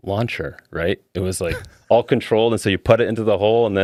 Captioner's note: laughing